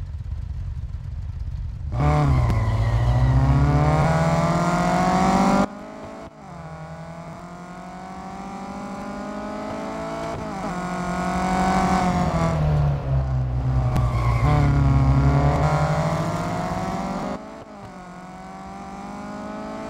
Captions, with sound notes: - (Engines revving) - And they’re off! Raoul ÇaRoule snatches the lead at the hairpin and pulls ahead of Izzie Parkingston who is from Germany.